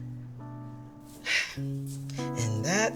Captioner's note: sighing